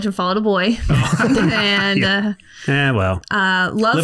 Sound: laughs

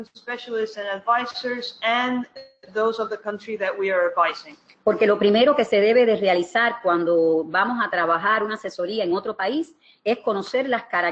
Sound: speaking another language

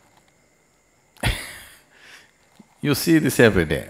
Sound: laughs

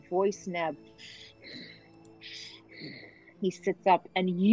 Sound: Talron breathing loudly

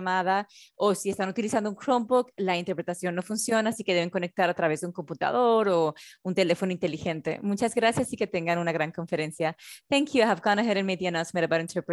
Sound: continues in spanish; continues in spanish

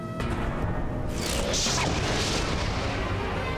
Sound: ethereal woosh

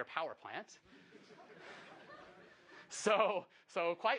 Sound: laughing

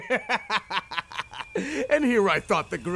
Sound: wheeze

